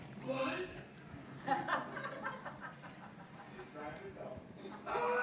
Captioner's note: laughing